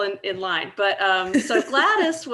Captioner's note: laughing